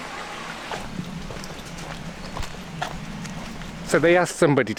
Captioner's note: running water; footsteps